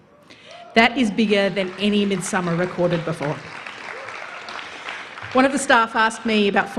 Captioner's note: applause